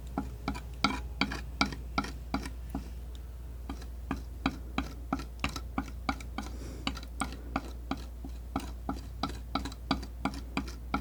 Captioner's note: tapping